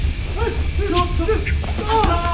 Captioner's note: men grunting; thudding